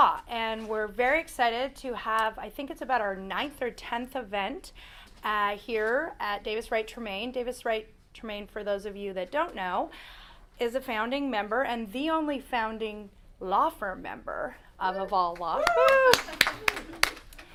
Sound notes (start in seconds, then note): 15.4 applause